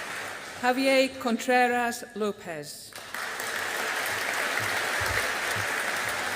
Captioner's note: audience applauding